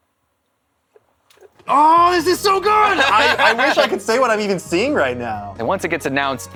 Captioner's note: laughter